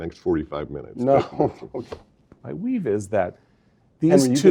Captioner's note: laugh